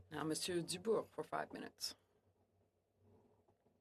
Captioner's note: speaking French